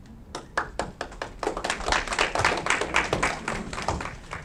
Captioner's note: audience clapping